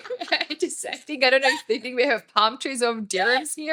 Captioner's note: laughing